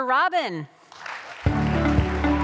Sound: cheers, applause

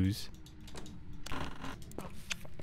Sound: door closes

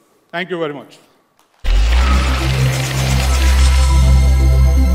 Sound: applause

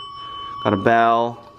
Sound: bell ringing

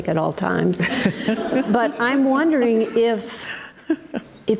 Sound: audience laughs

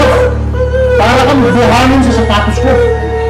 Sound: whimpering

